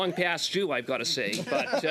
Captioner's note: laughter